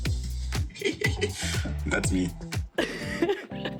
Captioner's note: laughs